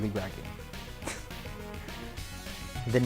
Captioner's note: cocky laugh